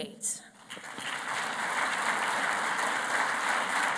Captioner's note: applause